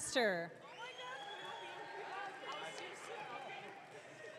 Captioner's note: audience cheering